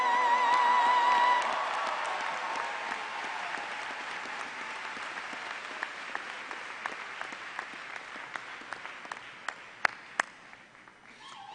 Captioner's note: applause